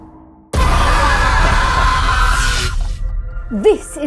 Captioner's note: screaming